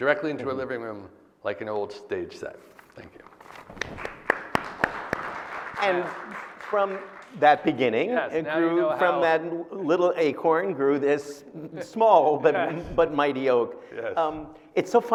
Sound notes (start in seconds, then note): 3.4 audience applauding; 7.0 claps